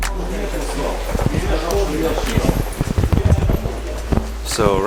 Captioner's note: people chattering